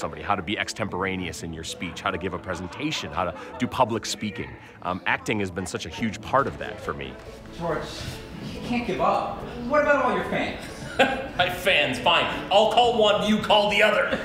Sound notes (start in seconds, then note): 10.6 laughs